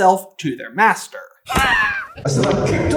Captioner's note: screams